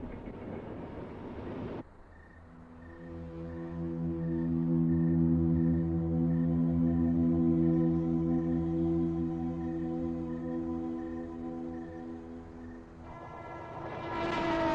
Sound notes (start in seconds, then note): 1.9 crickets chirp; 3.9 dreamy, contemplative music; 13.2 train horn